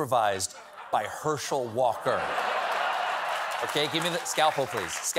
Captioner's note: laughter